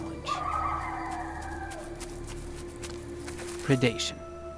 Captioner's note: paw steps pattering